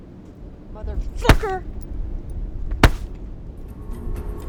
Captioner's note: foot bashing